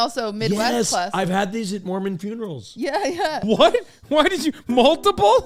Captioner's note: laughing